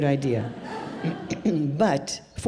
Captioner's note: audience laughs